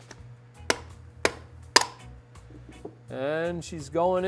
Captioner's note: thudding